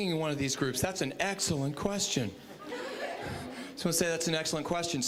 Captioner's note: audience chuckling